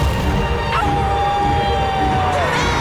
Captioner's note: howling; booing